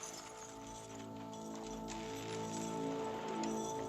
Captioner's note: chains jangling